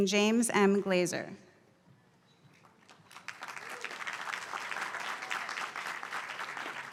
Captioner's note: applause